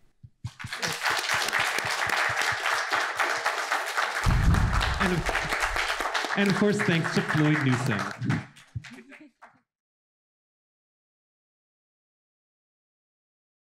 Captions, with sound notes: [Applause] And of course, thanks to Floyd Newsum [laughs]